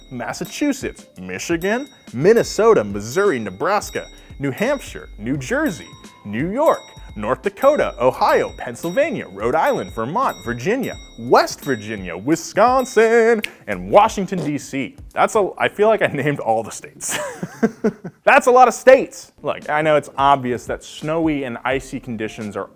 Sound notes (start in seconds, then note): 17.0 chuckling